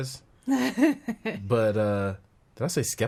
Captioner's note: laughing